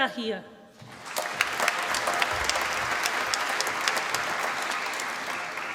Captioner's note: applause